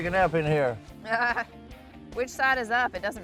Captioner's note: laughs